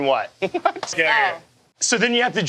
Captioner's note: laughs